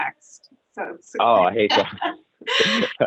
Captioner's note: laughs